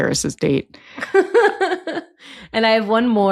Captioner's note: laughs